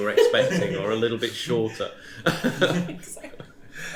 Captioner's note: chuckles